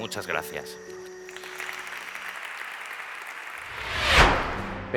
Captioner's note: applause